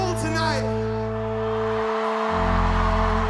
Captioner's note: Multidão aplaudindo mais alto